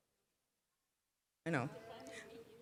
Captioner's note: applause